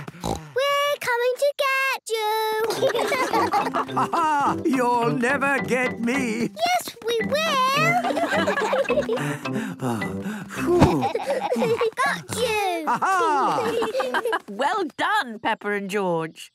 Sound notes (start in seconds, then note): 7.7 all laughing; 10.9 panting